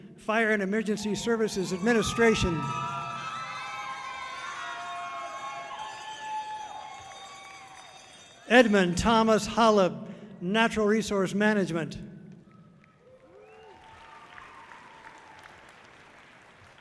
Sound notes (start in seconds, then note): 2.5 audience cheering loudly; 2.5 bell clinking softly; 12.8 audience cheering loudly